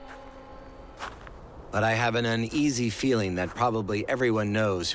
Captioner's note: none